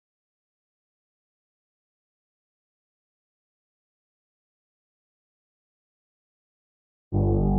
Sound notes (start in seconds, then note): 2.0 silence